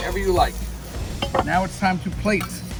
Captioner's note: air whooshing